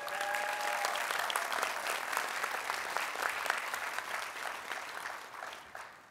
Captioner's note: cheering, Applause